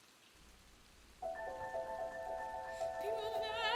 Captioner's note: rain fall